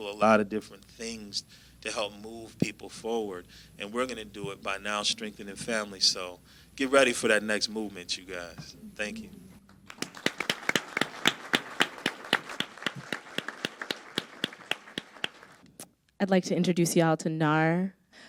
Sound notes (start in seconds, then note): 9.6 crowd applauds